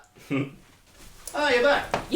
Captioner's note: giggling